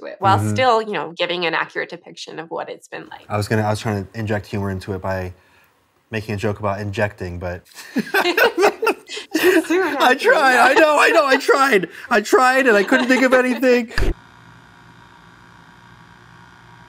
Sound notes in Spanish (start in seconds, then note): 7.7 risas